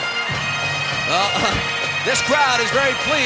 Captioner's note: upbeat music; chuckling